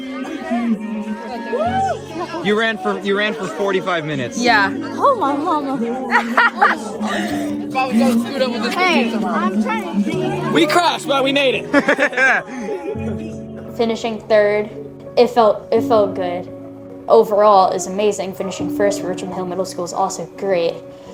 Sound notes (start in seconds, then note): 6.0 laughing